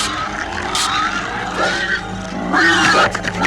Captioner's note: swooshing